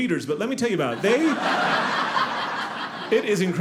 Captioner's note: audience laughing